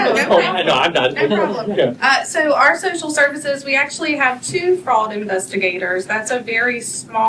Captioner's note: laughter